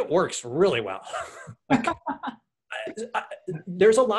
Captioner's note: laughs